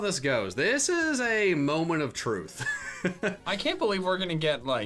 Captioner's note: laughs